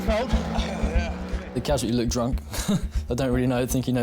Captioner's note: chuckles